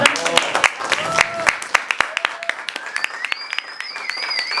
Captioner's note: applause